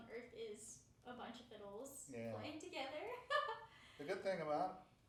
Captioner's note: laughing